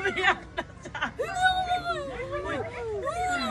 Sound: cries; Jennica cries

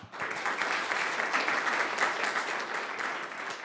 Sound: applause

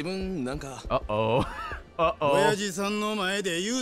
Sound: laughs

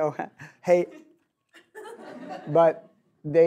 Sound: audience laughs

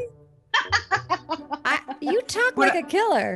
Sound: laughter

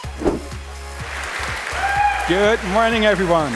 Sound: applause

